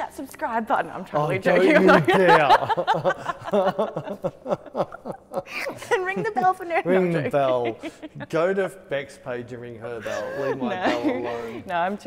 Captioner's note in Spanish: La risa